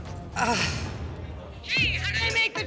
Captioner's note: groan